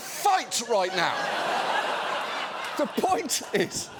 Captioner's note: audience laughing